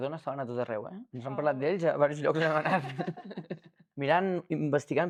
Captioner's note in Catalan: rialles